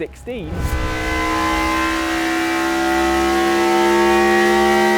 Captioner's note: engine revs